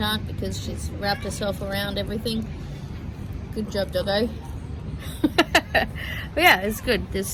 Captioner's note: laughs